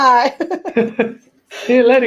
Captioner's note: laugh